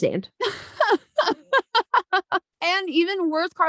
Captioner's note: laughing